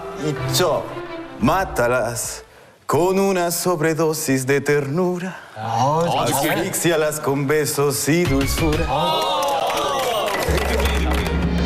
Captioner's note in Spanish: risas